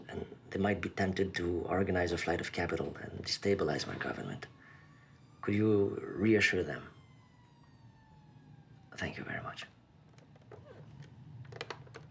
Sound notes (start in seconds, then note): none